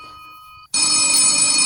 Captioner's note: phone ringing